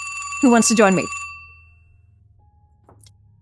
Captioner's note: phone rings